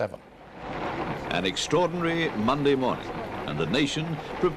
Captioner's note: voiceover